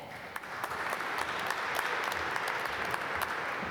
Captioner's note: applause